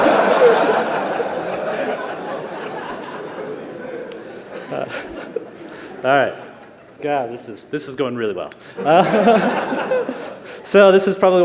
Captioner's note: laughter